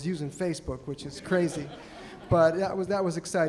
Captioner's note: audience laughing